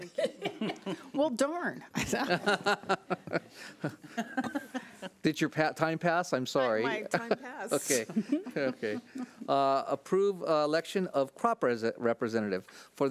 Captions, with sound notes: (laughs) - Well darn. (laughs) - Did your time pass I'm sorry. - Like my time passed. - Okay, okay. Approve election of CROP representative,